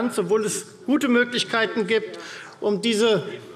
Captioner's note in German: none